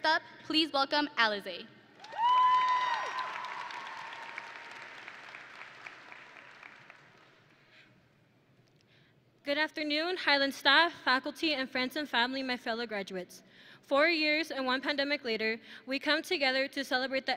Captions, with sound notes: First up, please welcome Alize! (audience and graduates cheering) (audience and graduates applauding) - Good afternoon, Highland Staff, Faculty, and friends and family of my fellow graduates. Four years and one pandemic later, we come together to celebrate